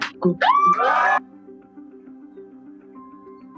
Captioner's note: cheering